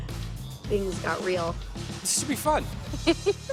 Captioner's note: laughs